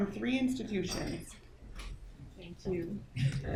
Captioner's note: metal jingling